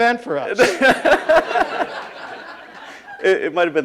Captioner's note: laughing